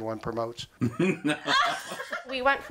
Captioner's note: laughter